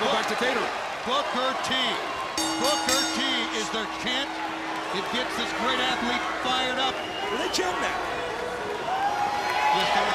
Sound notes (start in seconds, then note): 2.3 bell ringing